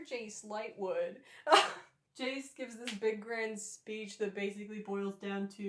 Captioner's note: laughter